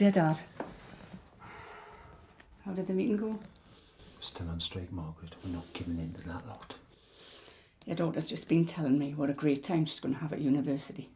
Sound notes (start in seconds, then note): none